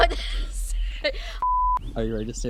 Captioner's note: "no signal" tone beeps